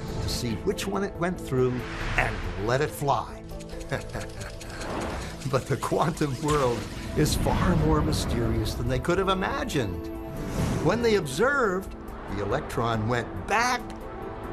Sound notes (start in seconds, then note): 3.6 laughs